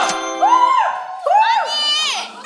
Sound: cheering

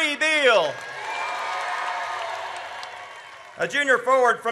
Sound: audience cheers

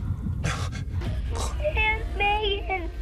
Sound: choking continues

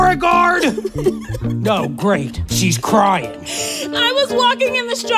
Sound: Silena cries

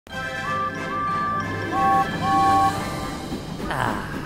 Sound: engines whistle

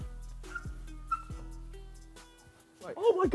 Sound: shoes squeak

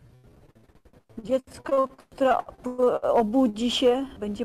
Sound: speaking polish

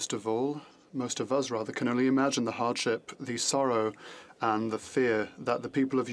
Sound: speaking French

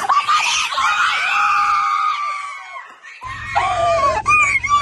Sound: screaming

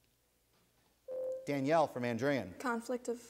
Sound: ding

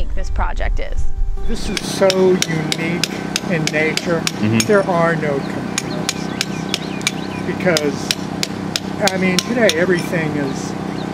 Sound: clinking sound continues

